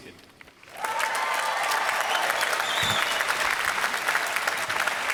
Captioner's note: applause